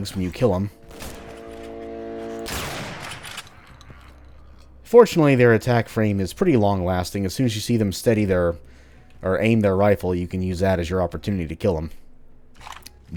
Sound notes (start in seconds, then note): 0.8 bam